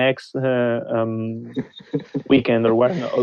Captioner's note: laughing